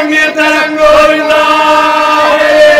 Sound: chants

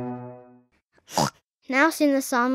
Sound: oinks

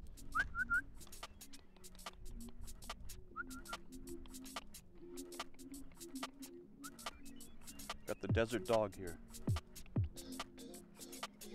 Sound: whistling

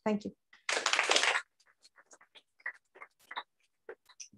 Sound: applause

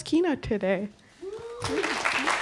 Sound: applause

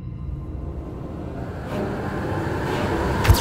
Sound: ominous Sounds getting louder

